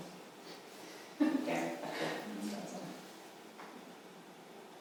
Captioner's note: women laughing